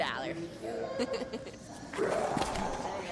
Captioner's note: laughs; growls